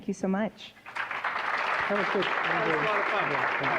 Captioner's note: applause